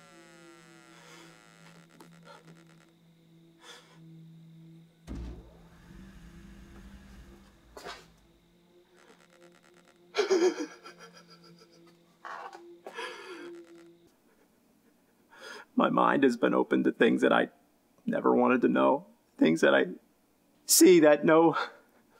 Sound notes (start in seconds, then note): 10.1 sobbing